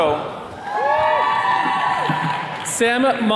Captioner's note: attendees cheering